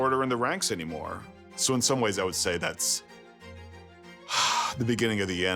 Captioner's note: sighs